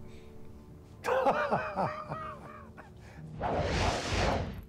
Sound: laughs

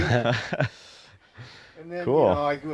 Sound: laughs

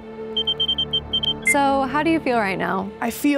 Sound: mechanical trilling

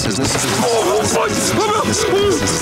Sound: yelling

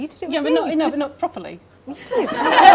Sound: laughing

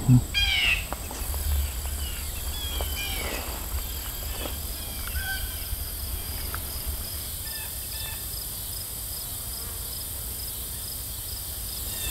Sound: crickets chirping, blue jays calling

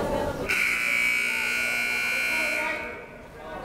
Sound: buzzer

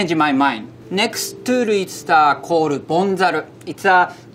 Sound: text chiming

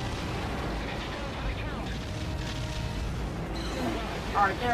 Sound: gunfire

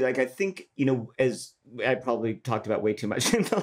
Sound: laughs

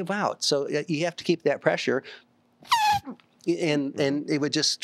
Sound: blows through lips

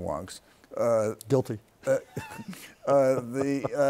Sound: laughs

